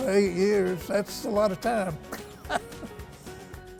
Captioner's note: laughs